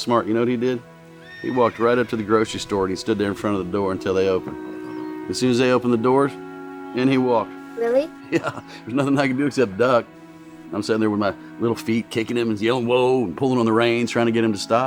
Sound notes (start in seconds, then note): 8.2 chuckles